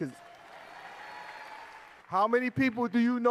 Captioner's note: cheers and applause